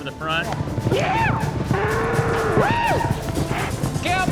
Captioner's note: shouting; bull bellows